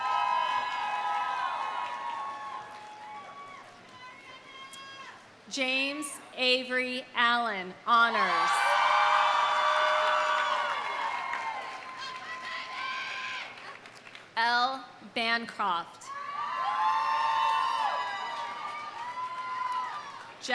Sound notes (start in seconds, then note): 0.0 audience applauding; 0.0 audience cheering; 8.2 audience cheering; 8.8 audience applauding; 16.2 audience cheering; 16.5 audience applauding